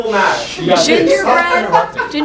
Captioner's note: shushes and laughter